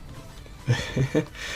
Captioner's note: giggles